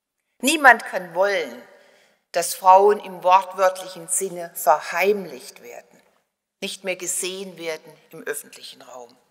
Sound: German

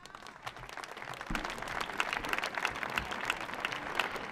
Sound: audience applauds

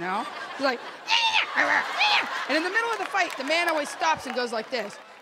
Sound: yapping

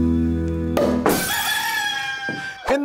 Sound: pop! glass smashes, rooster crows

